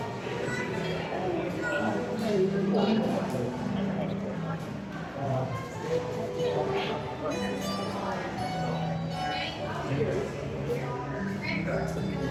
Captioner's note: chatter